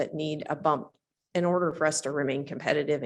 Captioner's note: none